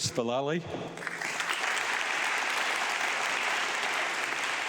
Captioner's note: audience clapping